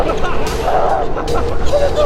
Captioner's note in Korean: 아악!